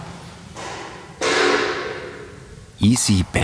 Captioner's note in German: Scheppern